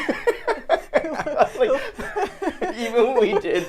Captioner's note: laughing